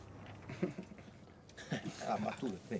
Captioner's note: chuckles